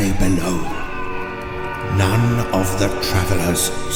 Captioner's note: screams